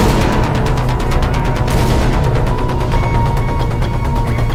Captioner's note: gunfire blasting